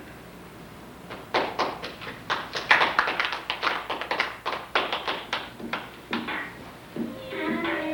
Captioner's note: applause